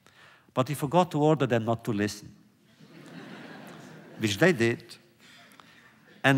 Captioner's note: laughter